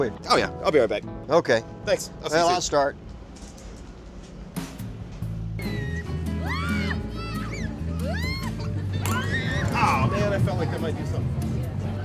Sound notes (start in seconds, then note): 3.6 kids screaming; 3.6 playful music